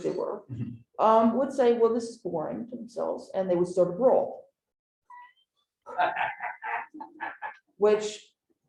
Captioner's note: laughter